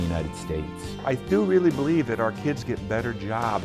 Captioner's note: voiceover